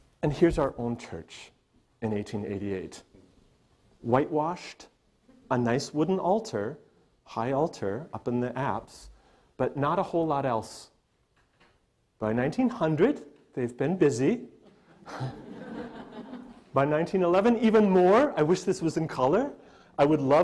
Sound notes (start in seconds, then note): 14.7 audience laughter